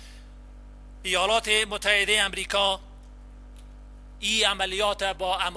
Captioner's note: translator speaking in foreign language